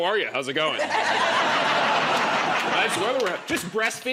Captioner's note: laughter